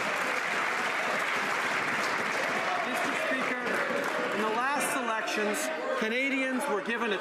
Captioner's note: some Applause